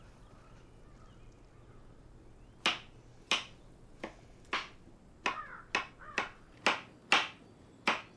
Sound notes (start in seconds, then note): 2.6 knife dicing food